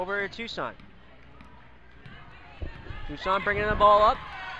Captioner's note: crowd talking and yelling